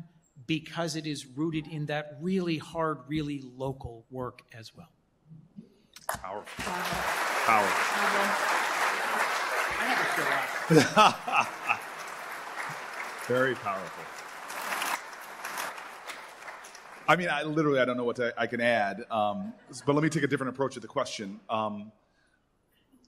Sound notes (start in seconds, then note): 8.3 applause